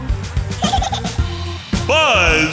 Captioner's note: giggling